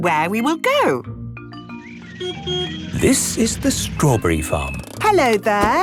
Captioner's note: beeps